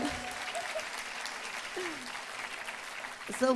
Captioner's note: applause